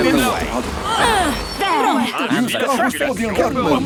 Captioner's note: grunts